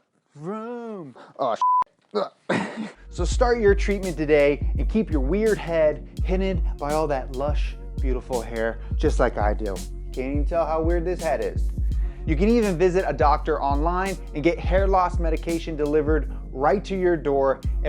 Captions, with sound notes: vroom. Oh (beep). So start your treatment today and keep your weird head hidden by all that lush beautiful hair, just like I do. Can you tell how weird this head is? You can even visit a doctor online and get hair loss medication delivered right to your door